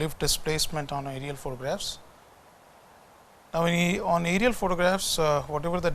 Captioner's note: distortion